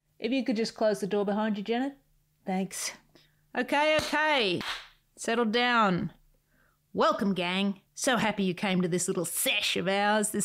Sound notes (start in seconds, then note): 4.5 claps hands